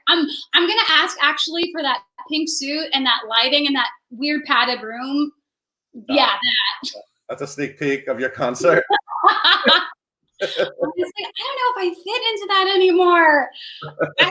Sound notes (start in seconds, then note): 10.4 laughing